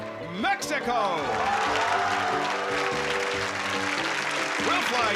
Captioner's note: applause